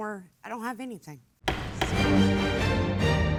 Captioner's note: gavel thuds; suspenseful music